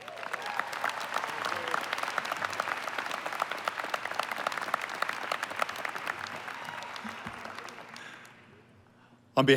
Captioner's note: applause